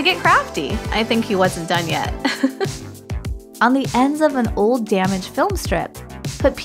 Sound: chuckle

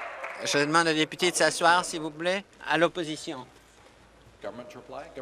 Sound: applause

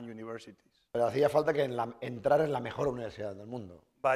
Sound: speaking spanish

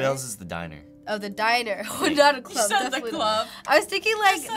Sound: chuckles

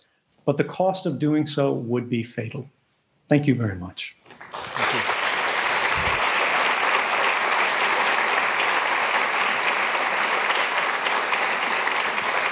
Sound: applause

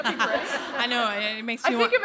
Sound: laughter

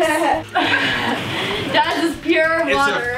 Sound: laughter

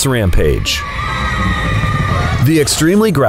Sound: children screaming in fear

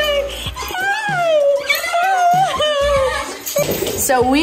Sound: dog squealing

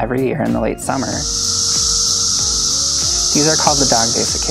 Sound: cicadas calling

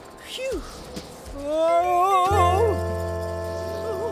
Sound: moan of anguish

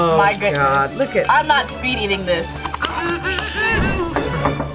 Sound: hums

